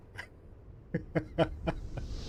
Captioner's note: laughing